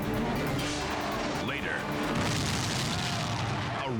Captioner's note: explosion booming